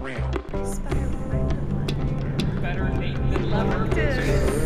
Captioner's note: overlapping chatter